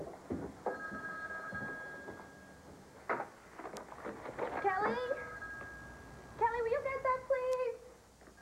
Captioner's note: telephone rgs